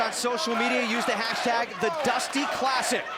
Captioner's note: crowd cheering